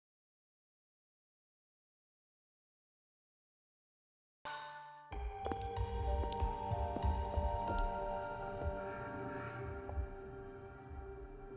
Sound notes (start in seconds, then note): 7.7 footsteps